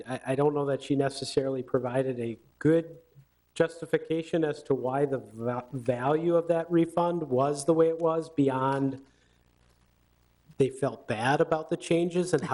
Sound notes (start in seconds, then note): none